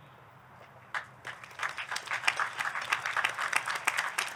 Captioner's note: audience clapping